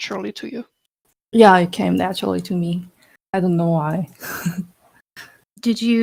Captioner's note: laugh